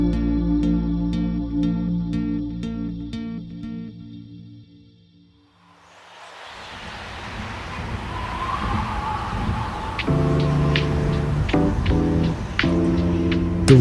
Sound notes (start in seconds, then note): 5.8 wind blustering; 10.0 upbeat music; 10.4 wind blustering continues